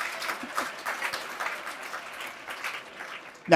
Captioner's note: applause